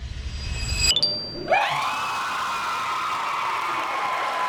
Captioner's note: cheering